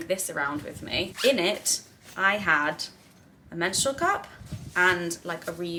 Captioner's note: zip buzzes